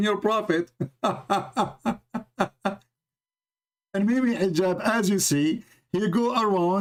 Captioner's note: Ketawa